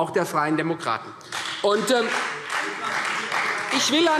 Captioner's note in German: Beifall